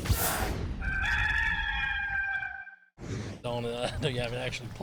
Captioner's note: rooster crowing